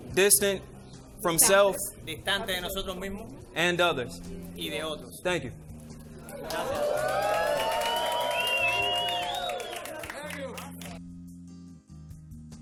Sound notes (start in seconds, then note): 2.3 interpreter speaking in foreign language; 4.7 interpreter speaking in foreign language; 6.2 crowd cheering and applauding; 9.7 mellow music